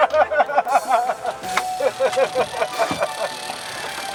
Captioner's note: laughter